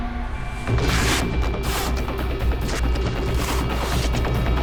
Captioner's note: frantic music; tape ripping